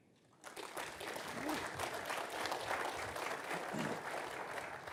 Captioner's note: audience applauding